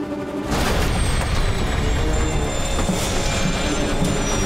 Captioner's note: plane rumbling; tense dramatic music